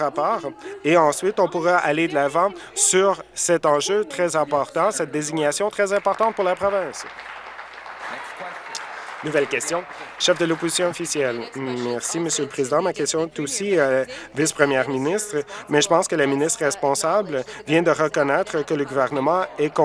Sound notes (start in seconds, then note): 10.8 applause